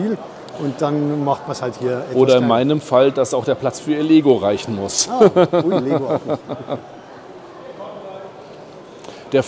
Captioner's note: laughter